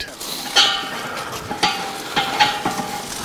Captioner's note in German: Metallisches Klirren